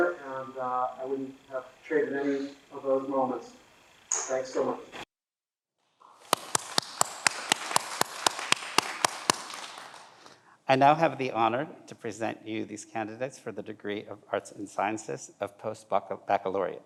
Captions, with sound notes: and I wouldn't have traded any of those moments. Thanks so much. (everyone applauds) - I now have the honor to present you these candidates for the Degree of Arts and Sciences, of Post Baccalaureate.